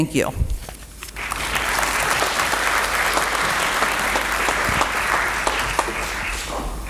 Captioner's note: applause